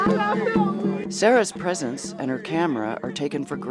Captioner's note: voiceover